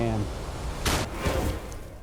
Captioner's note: gun firing